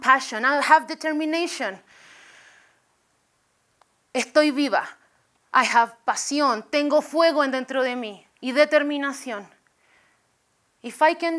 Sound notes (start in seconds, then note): 1.6 spanish